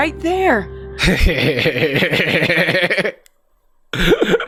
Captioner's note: Jarvis laughing